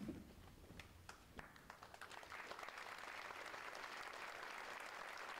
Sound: audience applauds

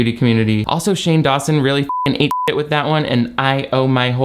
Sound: beep

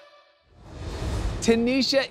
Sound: graphics whoosh

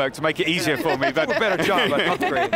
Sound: laughing

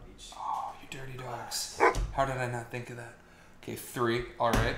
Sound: ruff

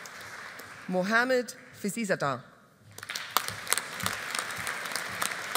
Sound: audience applauding

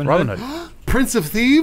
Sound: gasps

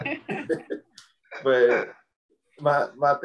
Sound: group laughs

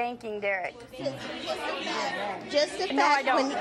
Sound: audience talking excitedly

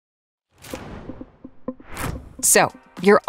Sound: frame whooshes

